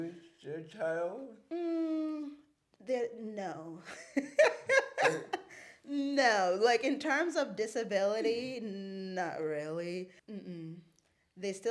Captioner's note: laughs